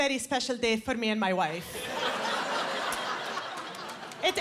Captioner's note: laughter